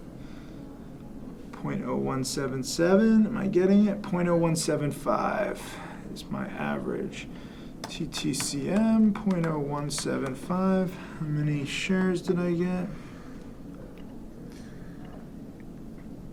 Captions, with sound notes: .0177, am I getting it? .0175, is my average. (typing) TTCM, .0175, how many shares did I get?